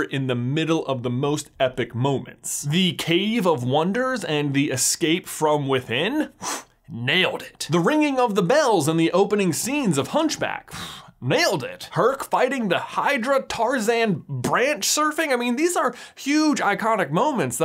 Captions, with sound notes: in the middle of the most epic moments. The Cave of Wonders and the escape from within? (exhales sharply) Nailed it. The ringing of the bells in the opening scenes of "Hunchback?" (exhales sharply) Nailed it! Herc fighting the hydra, Tarzan branch-surfing, I mean, these are huge, iconic moments